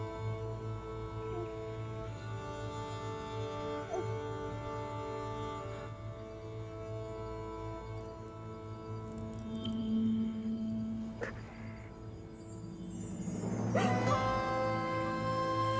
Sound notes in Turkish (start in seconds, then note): 13.6 Ağlama sesi; 15.5 Müzik - Duygusal